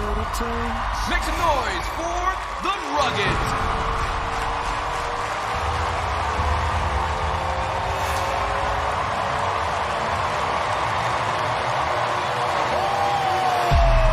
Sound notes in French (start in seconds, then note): 2.9 applause; 5.9 suspenseful music